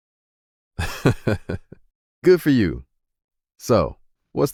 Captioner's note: laughing